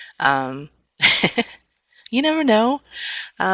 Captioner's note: laughs